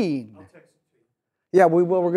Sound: voiceover

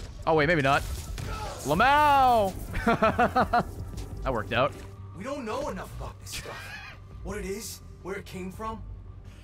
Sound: laughs

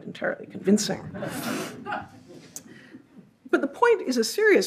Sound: audience laughs

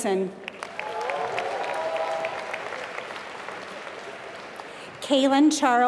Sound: applause

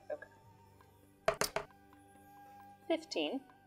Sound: dice rolling

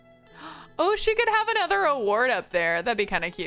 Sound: gasps

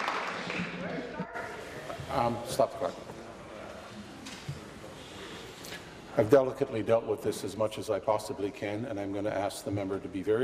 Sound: applause

